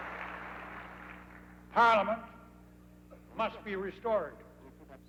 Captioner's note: applause